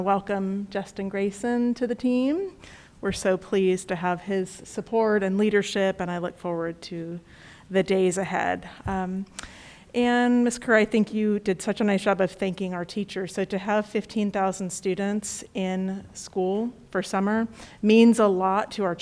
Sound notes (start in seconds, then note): none